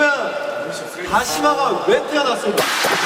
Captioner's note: rubbing